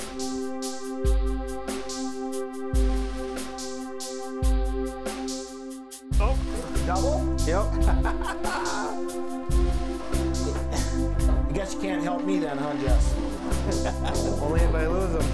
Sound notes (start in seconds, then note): 9.3 laughing